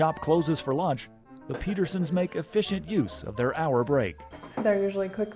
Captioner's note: laughs